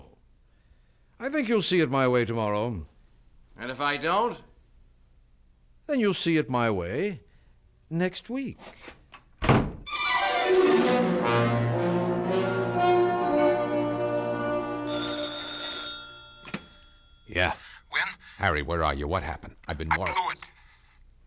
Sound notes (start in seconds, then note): 10.7 door closes; 16.1 telephone rings